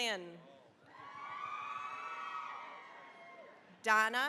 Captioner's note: cheering, applause